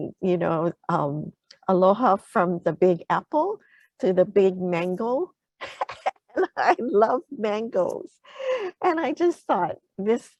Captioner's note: laughter